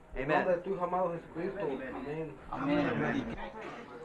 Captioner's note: man speaks Spanish